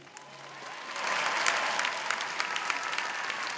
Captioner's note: cheers and applause